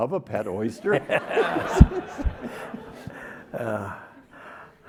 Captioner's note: everyone laughing